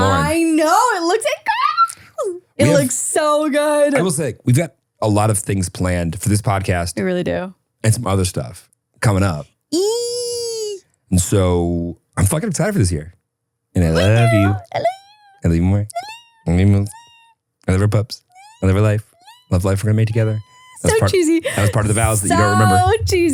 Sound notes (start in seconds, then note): 16.0 people squeaking